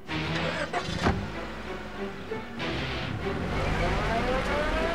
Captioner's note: engine rumbling